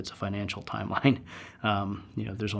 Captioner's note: laugh